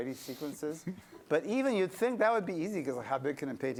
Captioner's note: laughter